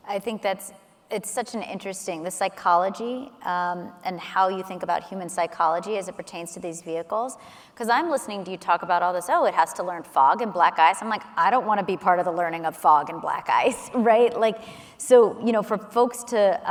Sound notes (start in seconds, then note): none